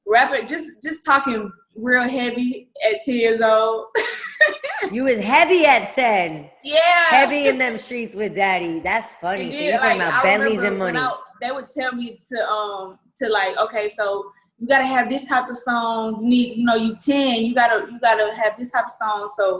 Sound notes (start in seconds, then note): 4.0 laughs